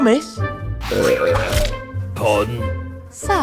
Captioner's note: burp sound